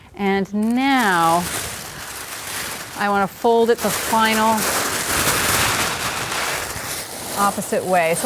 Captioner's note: paper rustling